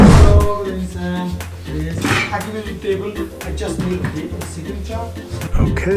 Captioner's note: hotel staff speaking at a distance